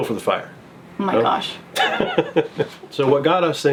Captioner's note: laughing